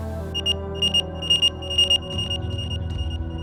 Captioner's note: beeping